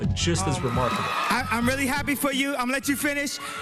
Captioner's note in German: Jubel der Menge